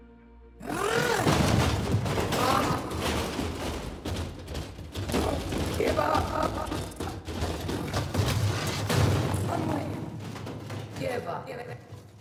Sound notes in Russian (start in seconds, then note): 0.8 Столкновения металла; 6.1 Множество шагов, со стуком как будто её вжали в стену; 12.0 Слабая борьба и возможно звук того как Мимик её поднимает